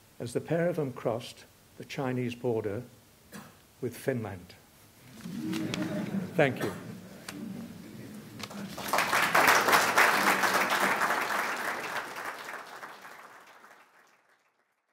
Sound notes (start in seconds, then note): 5.2 laughter; 8.3 applause